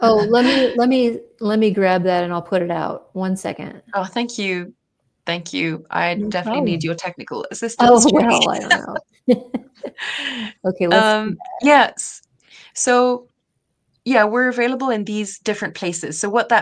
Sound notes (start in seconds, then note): 7.8 laughs; 9.2 chuckles